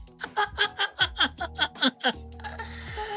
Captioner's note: laughter